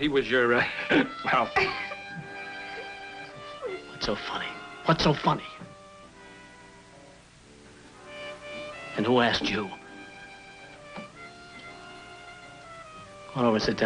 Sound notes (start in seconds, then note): 2.2 giggles